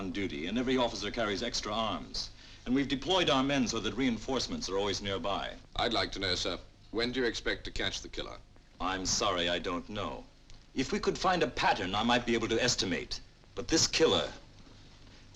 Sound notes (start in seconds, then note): none